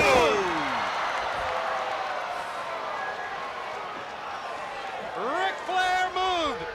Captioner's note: crowd cheering